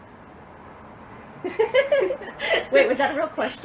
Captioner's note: laughs